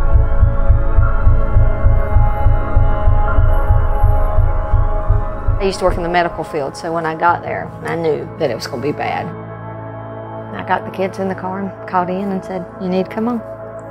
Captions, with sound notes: (sirens wail) I used to work in the medical field, so when I got there, I knew that it was gon' be bad. I got the kids in the car and called Ian and said, "You need to come on.